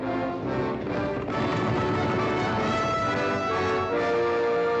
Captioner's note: triumphant music; hooves pounding; triumphant music